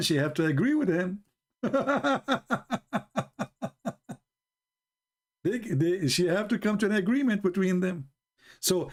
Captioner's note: Ketawa